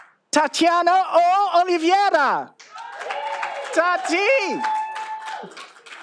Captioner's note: all applauding